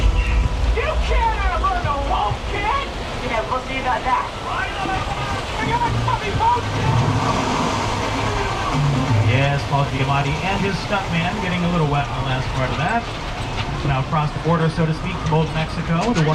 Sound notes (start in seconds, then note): 5.4 shouting; 5.4 water rushing